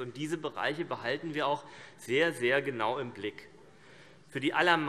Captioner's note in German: none